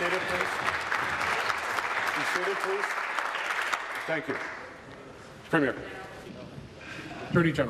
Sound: applause

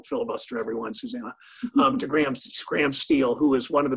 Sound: laugh

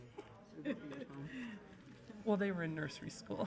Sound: laughter

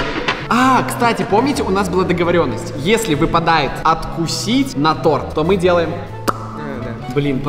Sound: wham

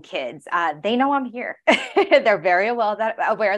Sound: laughing

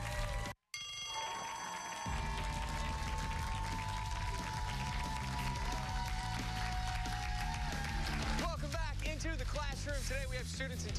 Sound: cheers and applause

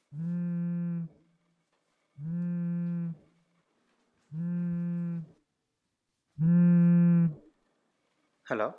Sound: phone Vibrates

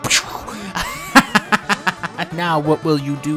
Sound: laughs

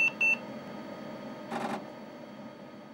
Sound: beeping

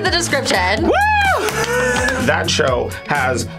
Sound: laughs

